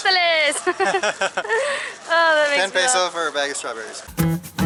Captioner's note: laughter